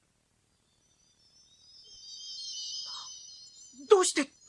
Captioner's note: SFX: sparkling sound